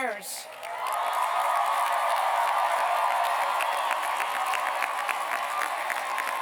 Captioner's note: cheers and applause